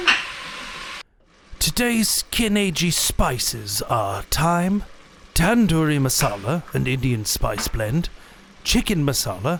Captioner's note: voiceover